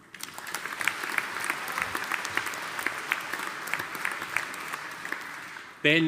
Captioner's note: audience applauding